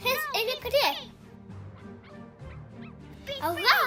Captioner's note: cute barking